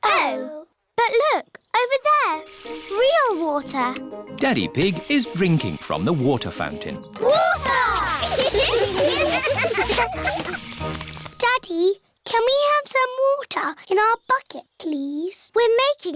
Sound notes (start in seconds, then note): 8.1 laughter